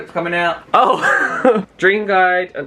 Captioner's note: laughs